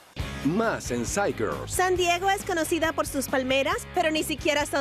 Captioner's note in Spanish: gritando